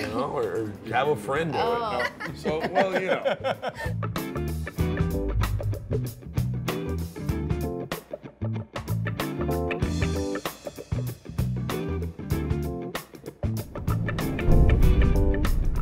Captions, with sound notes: or have a friend do it. (all laughing) (jazzy guitar music)